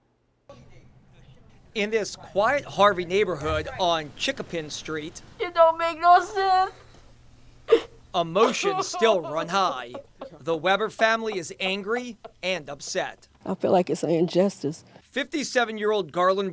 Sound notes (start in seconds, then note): 7.6 sobbing